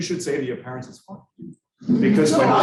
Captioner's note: students laughing